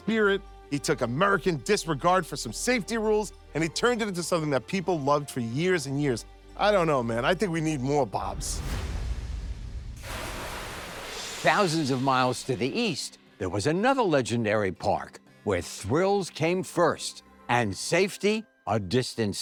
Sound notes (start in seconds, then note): 10.0 water splashing